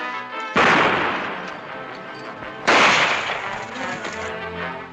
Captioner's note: gunshots